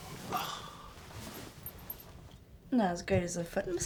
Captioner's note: sighs